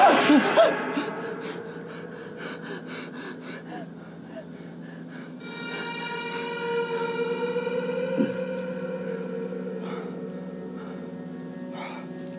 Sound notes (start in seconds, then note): 0.0 Gunderson gasps; 1.6 Gunderson breathes heavily; 5.6 ominous music